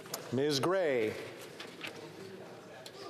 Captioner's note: speaking FRENCH